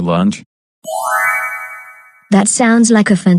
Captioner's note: chime